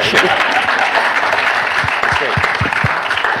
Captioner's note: applause